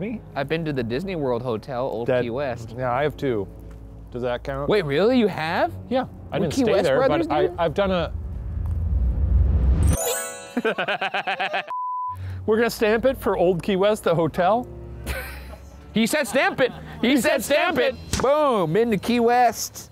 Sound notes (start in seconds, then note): 10.5 laughing; 11.7 screen beeps; 16.2 laughs